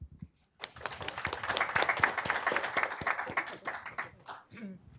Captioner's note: audience clapping